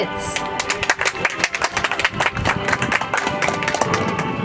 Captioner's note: audience applauds